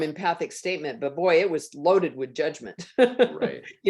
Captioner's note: laughs